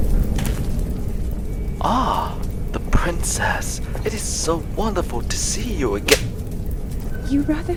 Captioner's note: slap